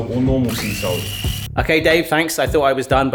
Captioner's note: blender whirring